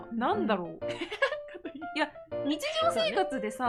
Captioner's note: laughing